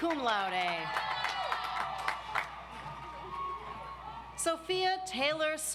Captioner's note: audience applauds